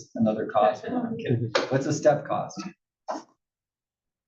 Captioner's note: laugh